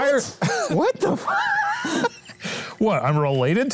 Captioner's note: wheeze